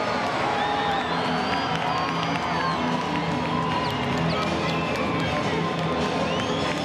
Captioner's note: dramatic music continues; crowd chattering